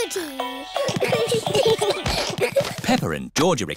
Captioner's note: all giggling